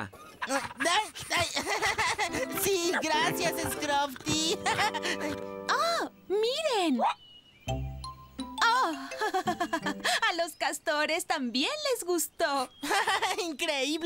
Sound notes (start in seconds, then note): 0.0 laughing; 5.3 gasp!; 8.7 laughing